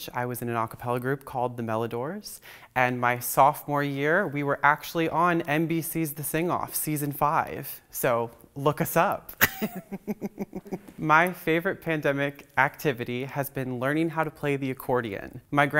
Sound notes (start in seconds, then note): 9.4 laughs